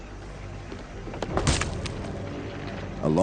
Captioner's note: slam